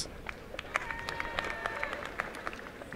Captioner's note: applause